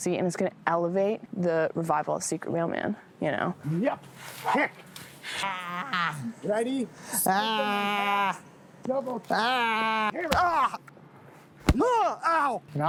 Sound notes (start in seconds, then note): 5.4 shouts; 9.4 shouts